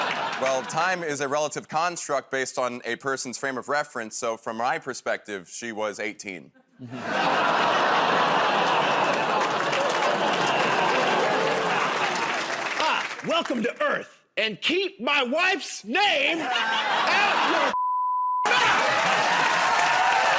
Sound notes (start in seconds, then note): 9.3 audience groans